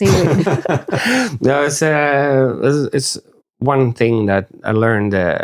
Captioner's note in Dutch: lacht